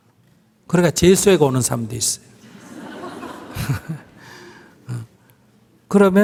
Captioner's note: audience Laughter